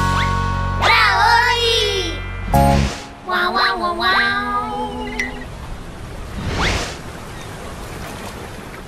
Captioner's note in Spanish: Sonido de marea